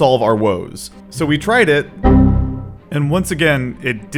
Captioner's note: Windows error sound